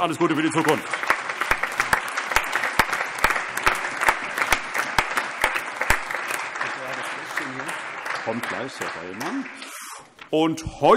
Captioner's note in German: Allgemeiner Beifall